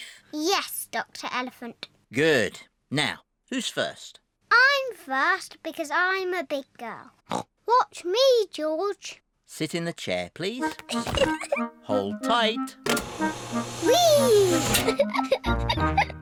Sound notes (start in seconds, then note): 7.1 snorts; 10.8 giggles; 14.9 giggles